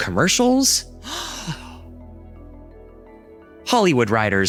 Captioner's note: gasping